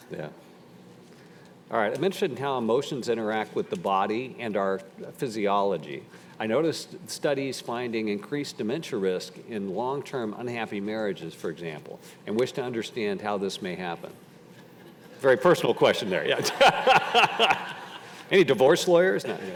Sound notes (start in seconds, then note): 14.6 audience laughing; 16.4 all laughing